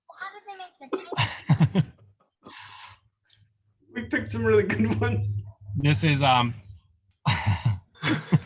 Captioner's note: laughter